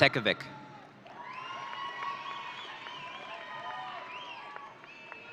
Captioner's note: audience cheering